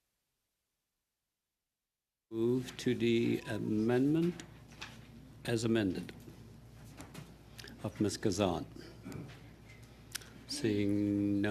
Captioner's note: speaking French